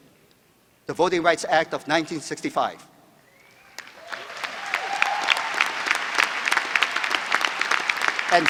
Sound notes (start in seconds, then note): 3.6 applause